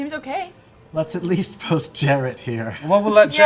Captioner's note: laughing